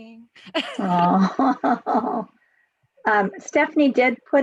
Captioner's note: loud laughs